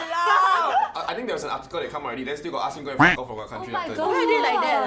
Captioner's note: beep